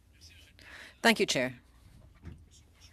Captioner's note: speaking French